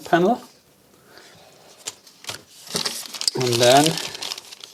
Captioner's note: plastic crinkling